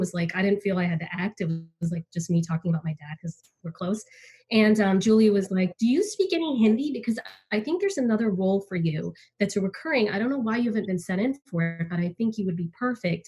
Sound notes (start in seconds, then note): none